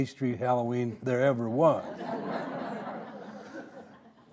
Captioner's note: audience laughing